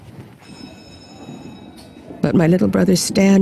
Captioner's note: bell ringing